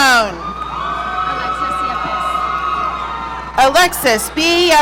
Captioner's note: audience cheering